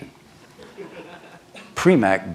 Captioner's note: laughter